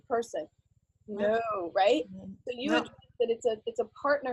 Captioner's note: voice fades